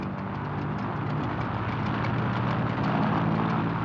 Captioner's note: plane roaring